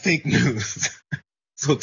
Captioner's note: laugh